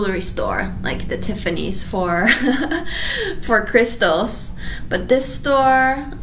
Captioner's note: laughs